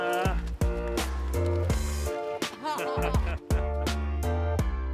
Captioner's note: both laughing